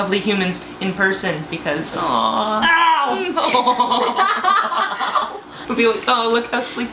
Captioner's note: laughter